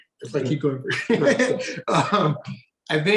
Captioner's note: chuckles